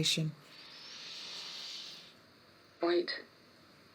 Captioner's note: inhaling deeply